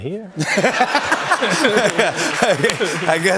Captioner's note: laughter